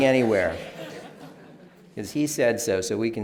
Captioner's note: laughter